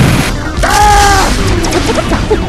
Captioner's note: oof